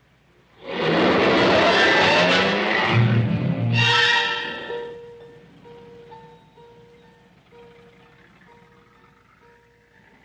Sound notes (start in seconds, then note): 0.5 dramatic music; 0.6 car engine revving